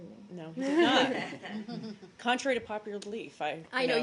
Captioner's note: laughter